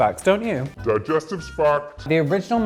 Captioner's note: computer Voice